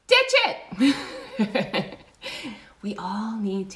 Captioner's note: laughs